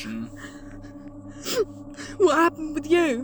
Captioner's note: Ace sniffs